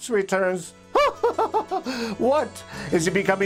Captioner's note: laughs